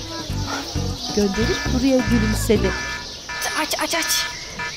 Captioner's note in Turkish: Telefon zili sesi